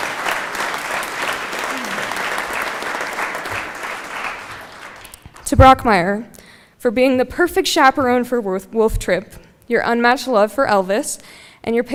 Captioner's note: applause